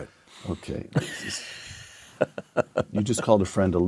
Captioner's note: laugh